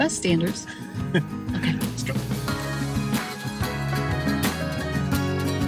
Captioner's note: chuckling